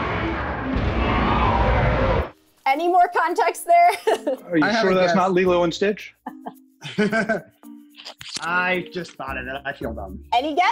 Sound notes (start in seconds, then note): 3.9 laughs